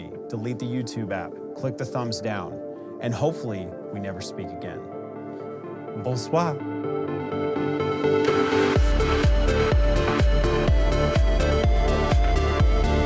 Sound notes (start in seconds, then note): 5.9 speaks french; 7.6 high upbeat music